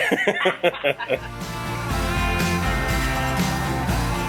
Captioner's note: hearty laughter